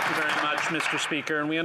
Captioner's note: applause